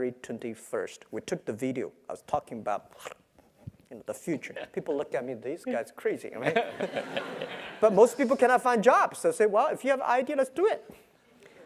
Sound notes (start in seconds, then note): 6.5 laugh